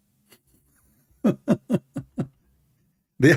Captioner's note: Ketawa